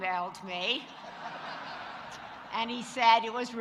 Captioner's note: audience laughing